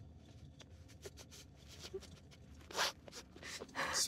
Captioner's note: Keely sobs